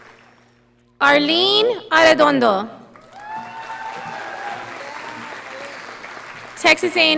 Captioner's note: audience applauding